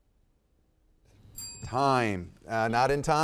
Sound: bell ringing

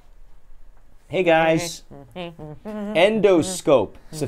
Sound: humming

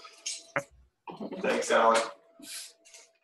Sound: male Voice

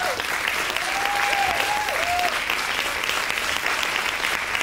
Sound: audience clap and cheers

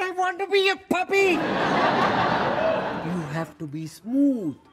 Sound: audience laughs

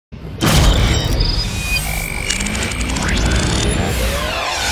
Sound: electronic whooshing

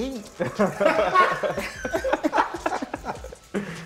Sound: laughter

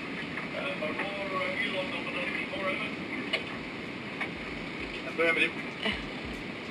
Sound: man On Radio

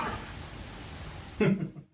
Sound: giggling

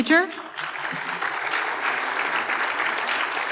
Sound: applause

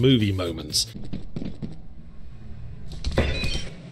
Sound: footsteps

